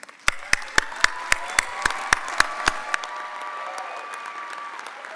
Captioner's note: audience cheering and applauding